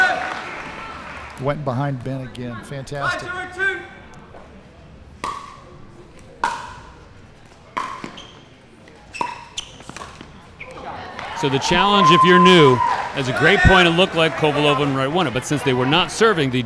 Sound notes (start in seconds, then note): 4.9 ball bouncing; 10.8 audience cheering